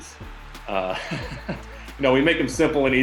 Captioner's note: chuckling